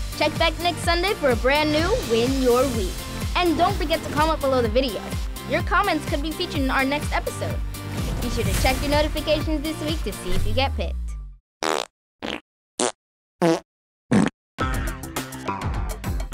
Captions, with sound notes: Check back next Sunday for a brand new Win Your Week. And don't forget to comment below the video. Your comments could be featured in our next episode. Be sure to check your notifications this week to see if you get picked. [farting]